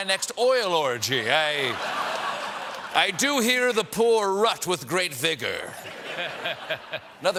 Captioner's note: laughter